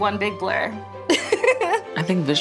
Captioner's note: giggles